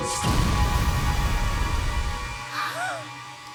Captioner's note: gasps